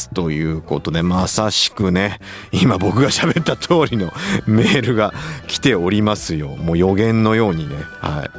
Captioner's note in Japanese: 笑い